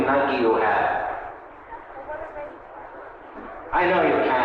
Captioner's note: group chattering